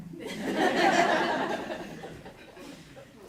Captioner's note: laughter